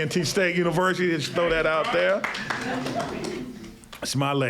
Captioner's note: cheers and applause